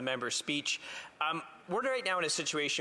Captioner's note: speaking French